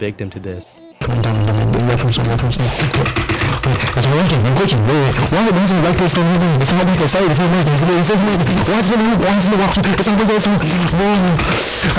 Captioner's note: audible chaos